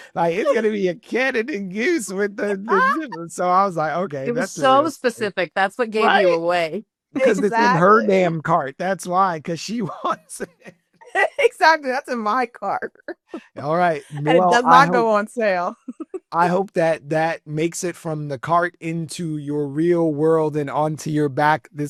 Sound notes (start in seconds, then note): 9.5 laughing